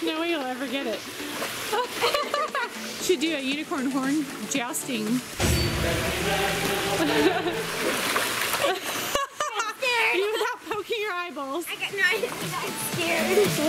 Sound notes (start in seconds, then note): 5.2 dramatic music; 6.6 laughs; 13.4 upbeat music